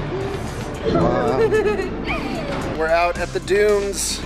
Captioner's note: giggles